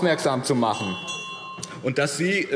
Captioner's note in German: Anhaltende Zurufe – Glockenzeichen